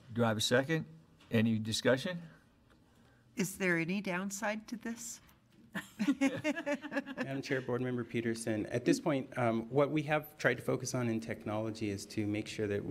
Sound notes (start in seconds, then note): 5.8 laughs